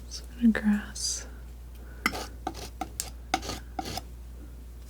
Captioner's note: scratching